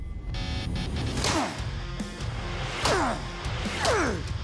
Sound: shouting

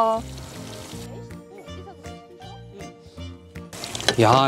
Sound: sizzle ripening

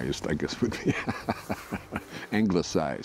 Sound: laughing

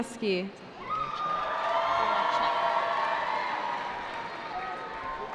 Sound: cheering

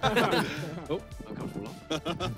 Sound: players laugh

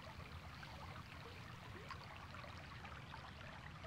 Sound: none

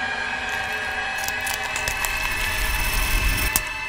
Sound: neck popping

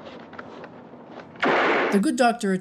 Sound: St. Luc fires gun

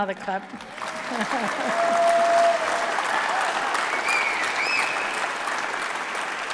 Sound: applause

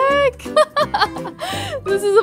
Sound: chuckling

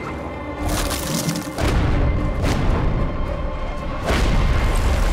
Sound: thudding

